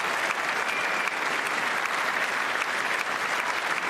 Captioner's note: applause